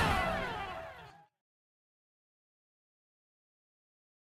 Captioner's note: swoosh